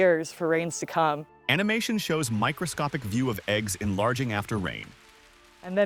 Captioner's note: thunderclap and rain spattering